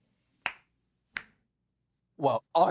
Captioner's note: claps; snaps